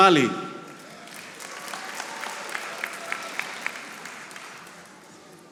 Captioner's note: audience applauding